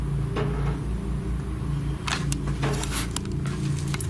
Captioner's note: loud knocking